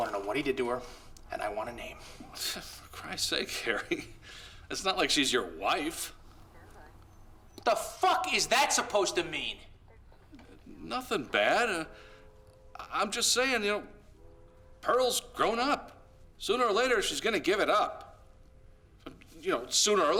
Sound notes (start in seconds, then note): 3.0 scoffs